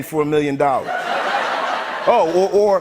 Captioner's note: laughter